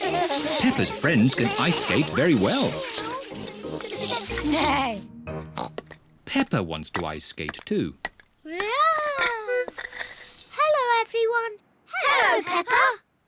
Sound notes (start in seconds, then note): 5.1 snorts